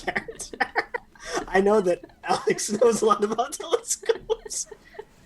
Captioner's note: laughter